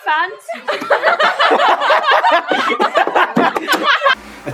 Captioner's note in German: Gruppe lacht laut